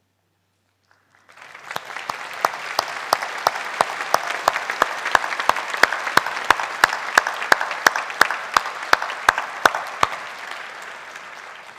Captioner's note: applause